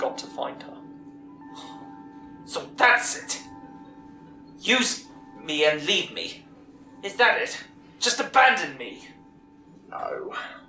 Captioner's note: annoyed